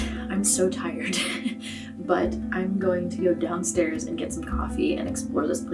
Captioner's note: laughs